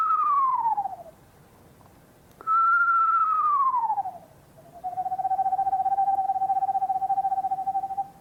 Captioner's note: whistling